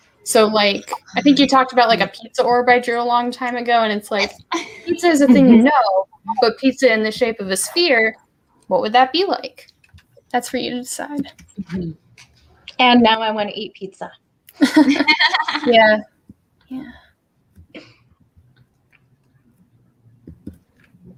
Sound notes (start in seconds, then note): 14.6 laughs